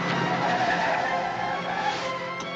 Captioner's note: brakes screeching